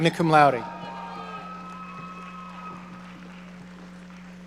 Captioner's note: audience cheering